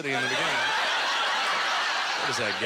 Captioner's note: audience laughter